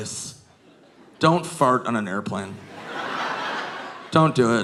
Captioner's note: audience laughing